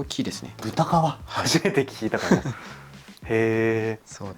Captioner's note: laughs